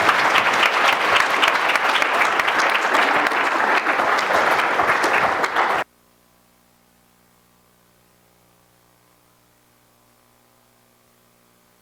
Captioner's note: applause